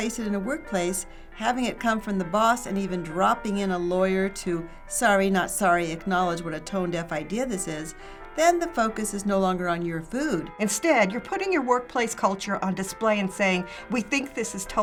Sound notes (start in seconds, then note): none